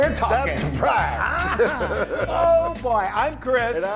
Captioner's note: laugh